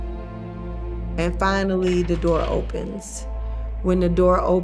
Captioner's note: door clicks